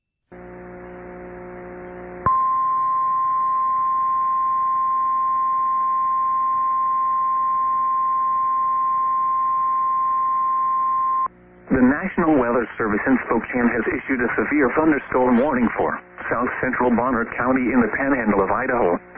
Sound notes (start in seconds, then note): 2.1 1050 HZ tone